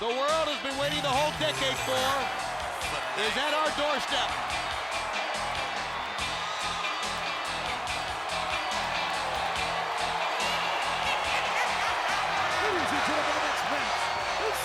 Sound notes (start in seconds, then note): 5.9 audience cheering; 5.9 funky upbeat music